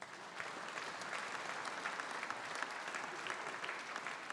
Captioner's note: audience applauding